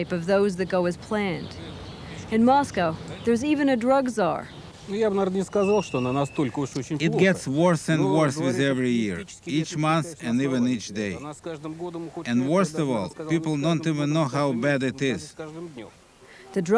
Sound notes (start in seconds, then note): 4.8 speaking Russian